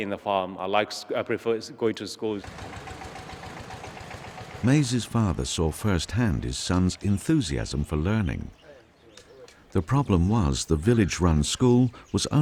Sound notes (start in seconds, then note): 2.4 engine puttering; 4.8 voiceover